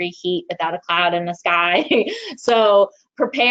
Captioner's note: chuckles